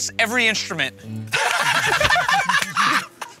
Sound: laughter

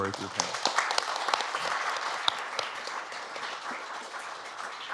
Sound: applause

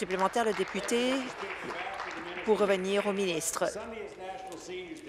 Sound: applause

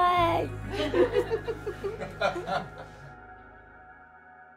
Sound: laughing

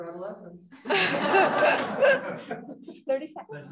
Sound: laughter

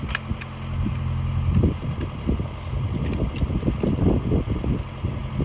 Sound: machinery humming

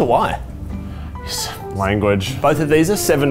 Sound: sighing

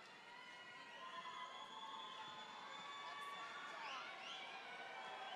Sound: audience members whistling

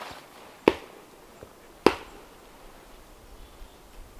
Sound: ax thudding

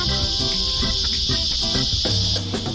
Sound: cicada sound

